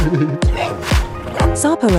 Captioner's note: giggle; snarl